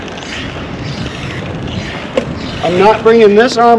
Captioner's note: wheels creaking